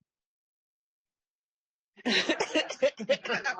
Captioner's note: laughter